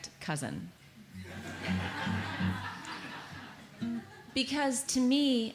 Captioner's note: audience laughs